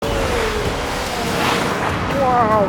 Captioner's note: engine revving